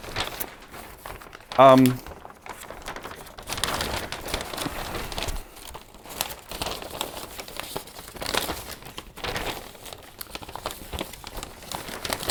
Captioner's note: paper rustling